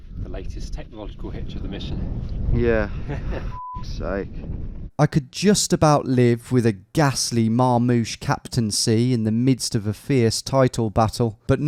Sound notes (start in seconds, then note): 3.5 beep